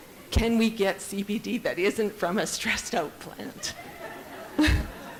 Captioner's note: audience giggles